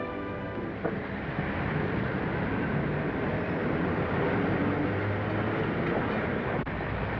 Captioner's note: city street sounds